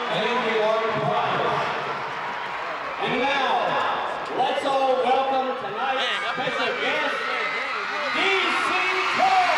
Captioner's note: audience cheers, announcer talks over loud speaker; announcer on loud speaker